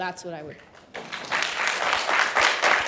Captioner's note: applause